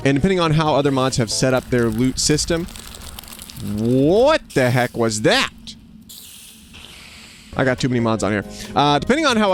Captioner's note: fast rattling